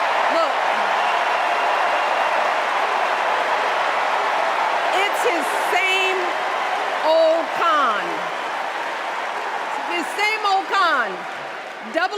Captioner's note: cheers and applause